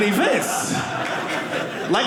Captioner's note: audience laughing